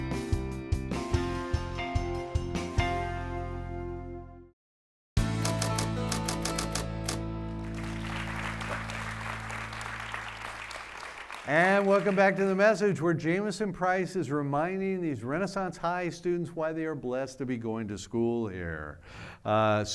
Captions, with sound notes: (typewriter typing) (audience clapping) And welcome back to The Message where Jamieson Price is reminding these Renaissance High students why they are blessed to be going to school here.